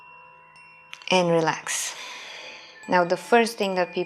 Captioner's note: exhaling